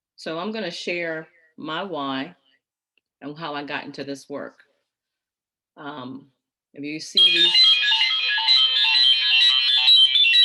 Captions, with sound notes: So I'm gonna share my why and how I got into this work. Have you seen- (alarm blaring)